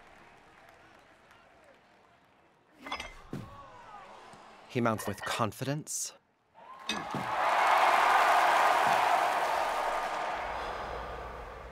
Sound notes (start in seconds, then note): 2.8 weights clink; 3.7 murmurs of amazement; 6.5 crowd cheering; 10.5 exhale